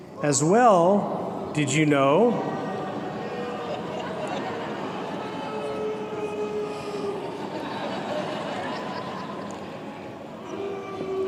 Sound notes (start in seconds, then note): 1.1 booing; 10.2 laughter